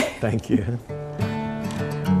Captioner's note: laughs; soft guitar